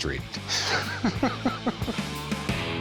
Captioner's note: laughs